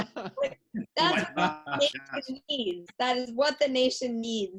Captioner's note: laughing